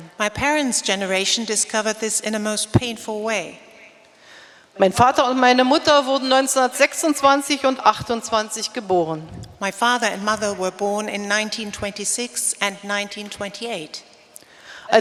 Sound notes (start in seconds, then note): 0.0 speaking in German; 5.1 speaking in German